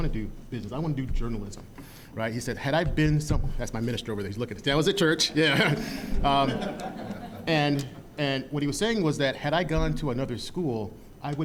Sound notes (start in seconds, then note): 5.1 audience laughing